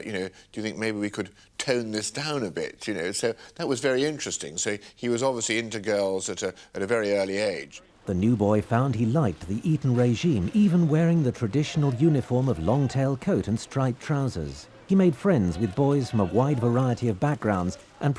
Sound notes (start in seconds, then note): 15.6 journalists shouting